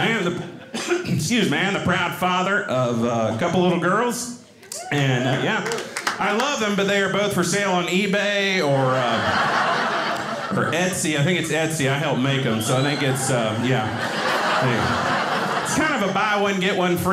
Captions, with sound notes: (coughing) Excuse me. I am the proud father of a couple little girls, yeah. I love 'em but they are both for sale on eBay. Or Etsy, I think it's Etsy. I helped make 'em, so I think it's yeah. It's kind of a buy one, get one free,